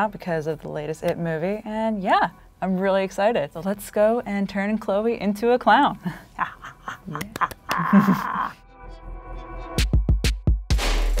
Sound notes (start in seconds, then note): 6.3 quietly cackling; 7.5 spooky music